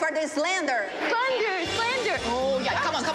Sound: mockingly

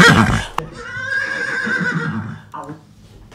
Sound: echo of HORSE WHINNY; horse whinny

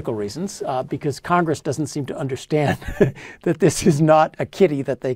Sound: laugh

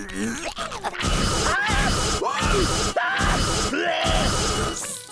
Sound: groaning; screaming

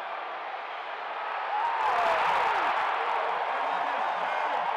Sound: cheering

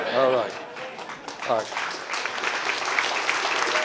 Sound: applause

